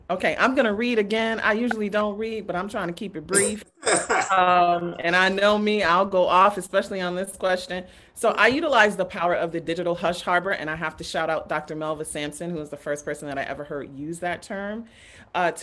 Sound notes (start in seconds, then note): 3.8 laughs